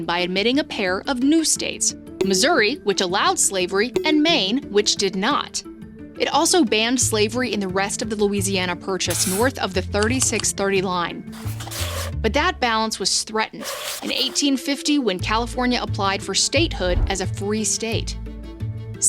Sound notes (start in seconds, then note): 5.4 graphic beeps; 11.3 graphic rustles